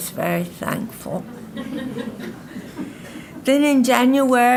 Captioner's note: audience laughing